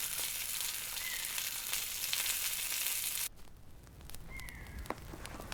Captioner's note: birds chirping